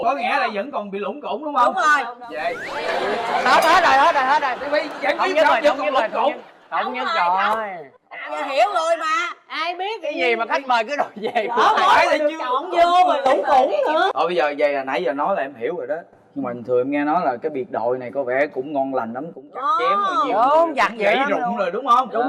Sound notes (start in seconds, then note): 2.4 laughing